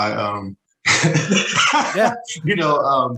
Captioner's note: laughs